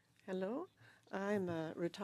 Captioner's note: speaking French